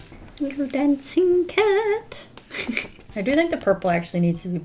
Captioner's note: laughs